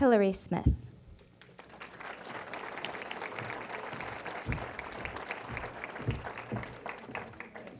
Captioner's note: applause